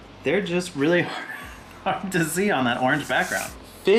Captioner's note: laughs